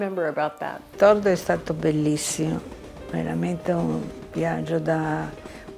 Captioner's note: speaking in foreign language